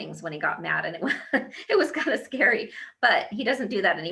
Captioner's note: laughs